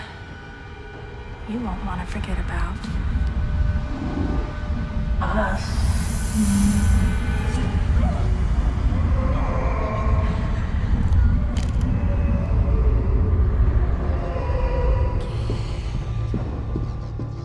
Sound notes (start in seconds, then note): 3.6 eerie music rises; 8.2 voices wailing and moaning